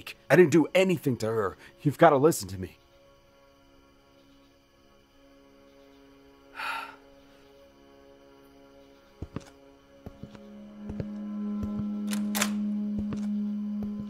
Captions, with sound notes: I didn't do anything to her. You've got to listen to me... [Conrad sighs] [door opens]